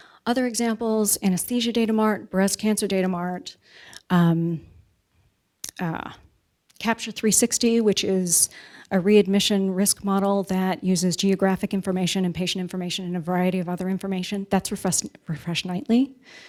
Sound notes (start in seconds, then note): none